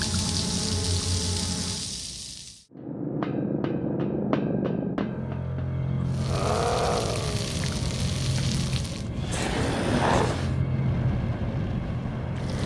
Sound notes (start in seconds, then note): 0.1 gas hissing; 3.4 footsteps clanging; 6.1 flesh sizzling; 9.1 zombies groaning